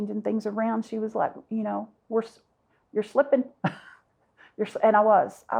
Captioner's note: chuckles